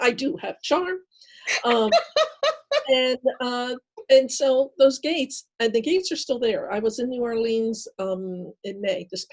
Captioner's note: laughing